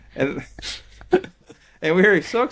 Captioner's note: laughing